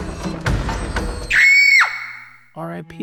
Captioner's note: scream